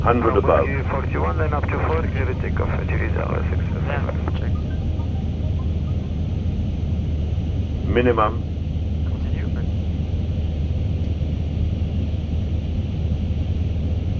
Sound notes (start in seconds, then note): 1.3 radio chatter